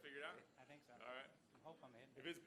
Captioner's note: voiceover